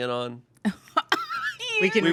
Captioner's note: laughs